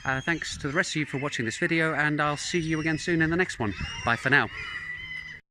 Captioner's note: sound of seagulls